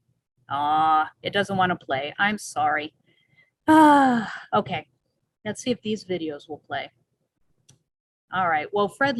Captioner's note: sighs